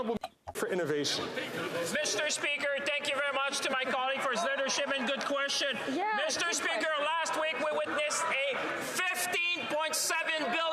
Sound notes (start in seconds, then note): 3.7 some Applause; 6.6 speaking French